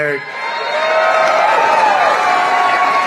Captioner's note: cheers